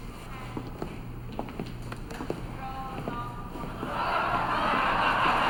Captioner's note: steps clattering; audience laughing and cheering